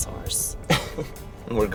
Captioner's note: Tom laughs